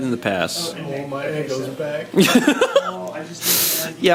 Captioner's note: laughs